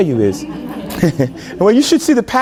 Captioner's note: laughter